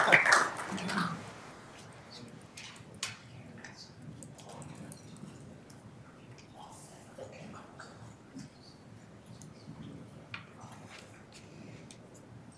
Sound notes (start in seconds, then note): 0.0 members applauding; 5.3 members whispering